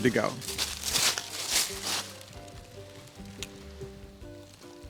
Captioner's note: leaves rustling